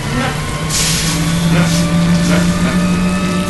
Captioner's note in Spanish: Dominic hace ruidos guturales; motor arrancando; Dominic hace ruidos guturales; motor arrancando